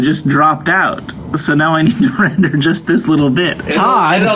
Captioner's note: laughing